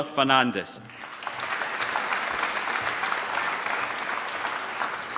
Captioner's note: applause